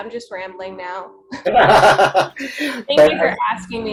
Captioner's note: laughing